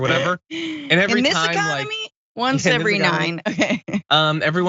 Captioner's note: laugh